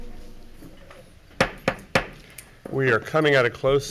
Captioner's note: gavel tapping